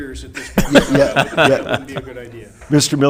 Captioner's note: laughing